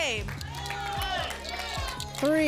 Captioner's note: audience shouting numbers